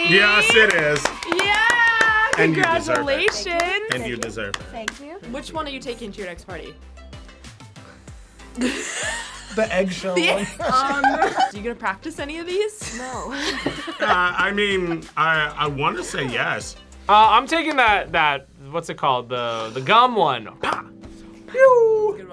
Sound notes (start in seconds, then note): 8.6 group laughs; 10.1 laughs; 13.0 laughs